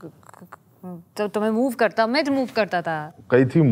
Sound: stammers

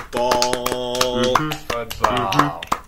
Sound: claps & approval

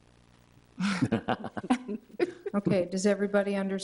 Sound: board members chuckling

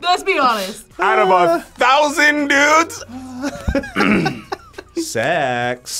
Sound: clears throat

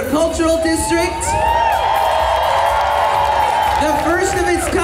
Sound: audience cheers

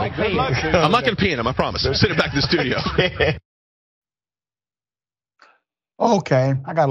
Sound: laugh

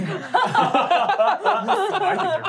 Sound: laughing

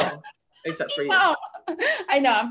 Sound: laughs

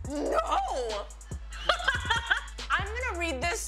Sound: laughs

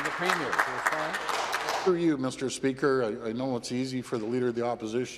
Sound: some Applause

